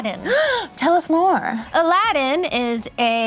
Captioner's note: gasps